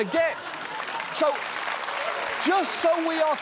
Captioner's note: audience applauds